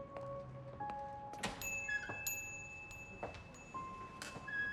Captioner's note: bell dings